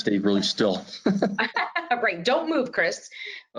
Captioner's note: laughs